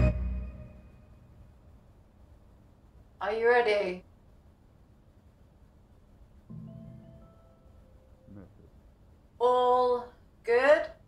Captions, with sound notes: (music cuts off) Are you ready? (phone bleeps, says "message") All good?